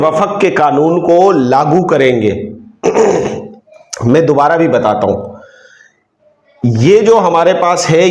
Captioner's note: clears throat